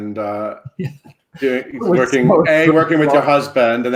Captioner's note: laughs